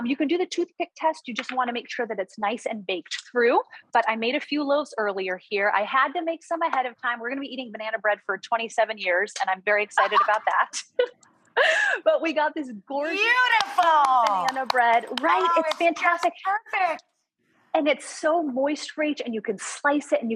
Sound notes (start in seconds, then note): 10.0 laughing